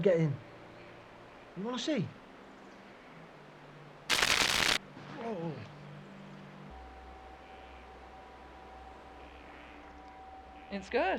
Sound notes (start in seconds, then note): 4.1 electrical fence sizzling